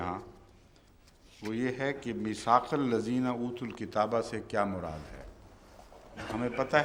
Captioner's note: Arabic